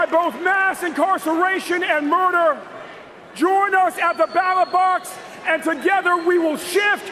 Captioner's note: cheers and applause